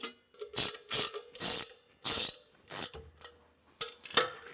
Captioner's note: wrench ratcheting